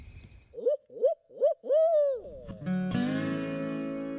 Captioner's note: turkey calls; gentle guitar music